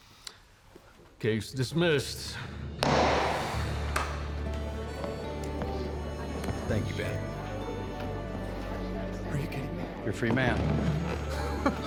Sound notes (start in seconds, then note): 2.8 strikes gavel; 3.9 claps hands